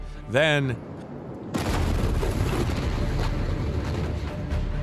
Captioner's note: explosion; dramatic music